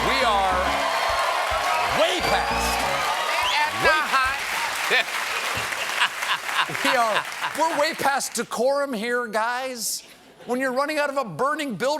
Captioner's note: laughter